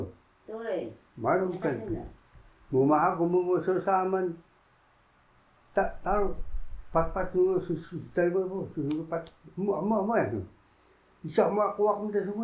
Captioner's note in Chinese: 指打聲音